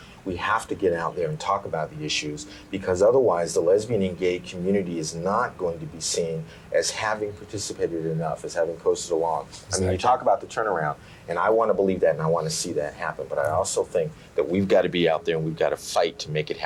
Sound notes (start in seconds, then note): none